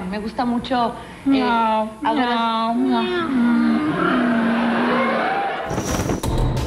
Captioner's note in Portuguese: ronrona